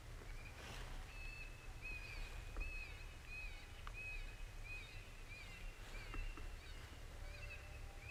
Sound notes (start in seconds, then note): 1.5 animal calls in the distance